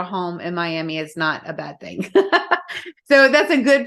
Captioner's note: laughs